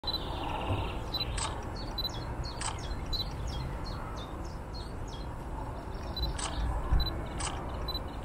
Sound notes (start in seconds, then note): 0.0 nature sounds in background